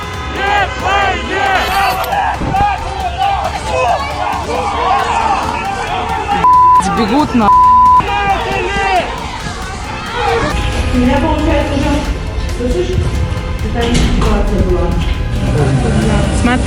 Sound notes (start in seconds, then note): 6.3 people screaming